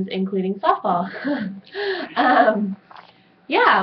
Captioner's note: laughs